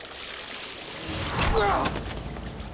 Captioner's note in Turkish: Ok saplanma sesi